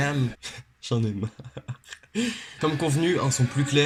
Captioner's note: laugh